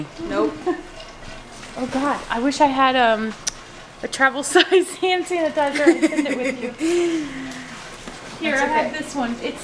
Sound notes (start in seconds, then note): 5.7 laughs